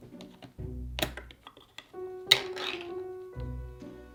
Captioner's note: can lid peeling